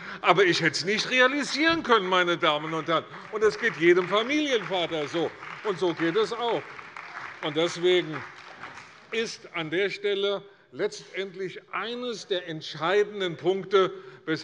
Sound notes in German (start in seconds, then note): 6.8 Beifall bei der CDU und dem BÜNDNIS 90/DIE GRÜNEN